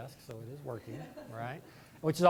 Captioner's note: laughter